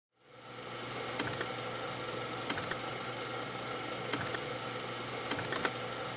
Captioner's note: machinery whirring and clicking